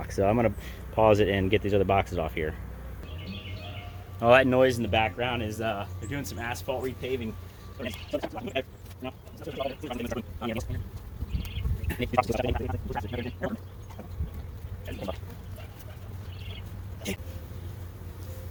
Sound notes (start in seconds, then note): 3.3 birds chirping; 8.0 sped up talking; 10.1 birds chirping; 12.1 sped up talking; 14.9 bees buzzing